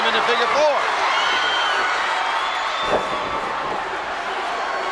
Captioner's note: crowd shout